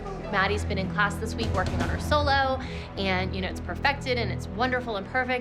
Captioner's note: none